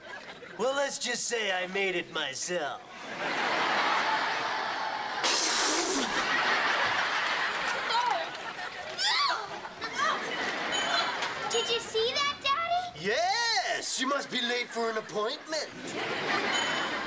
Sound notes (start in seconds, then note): 9.0 shrieks